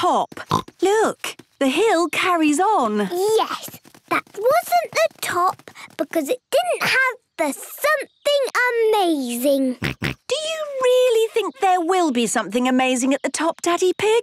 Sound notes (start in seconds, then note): 0.4 snorts; 9.8 snorts